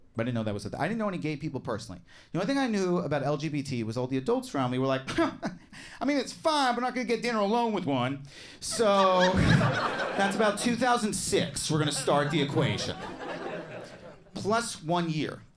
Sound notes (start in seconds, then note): 8.7 audience laughing